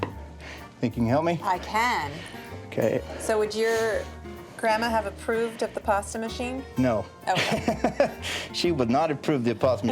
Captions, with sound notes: - Think you can help me? - I can. - OK. - So, would your grandma have approved of the pasta machine? - No. [laughing] - OK. She would not approve of the pasta machine.